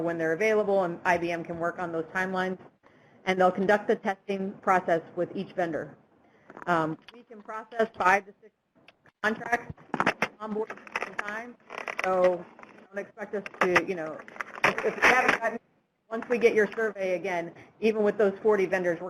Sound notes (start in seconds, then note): 7.2 typing; 11.6 Static; 13.1 typing